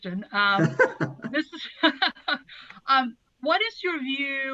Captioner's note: laughther